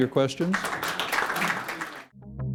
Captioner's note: applause